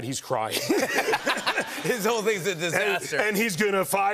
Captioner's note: laughter